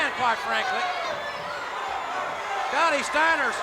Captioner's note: crowd clamoring